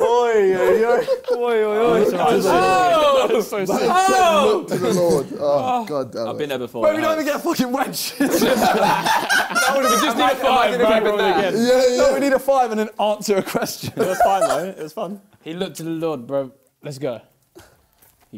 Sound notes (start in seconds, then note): 0.6 both laughing; 8.2 both laughing; 10.4 both mumbling